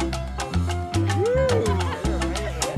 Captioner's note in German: Er jubelt